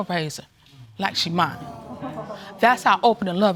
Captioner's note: audience exclaiming